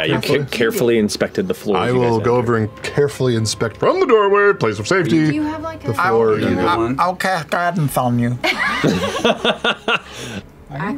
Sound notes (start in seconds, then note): 8.4 laughter